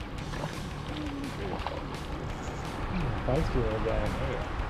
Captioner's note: fish splashing